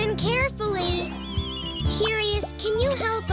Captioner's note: technology binging sounds